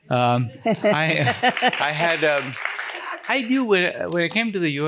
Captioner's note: applause